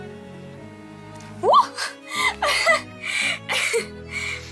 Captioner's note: Milly laughs